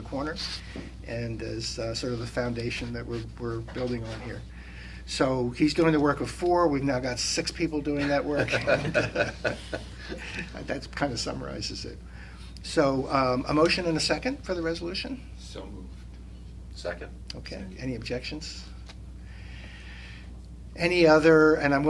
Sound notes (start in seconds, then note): 8.0 laughter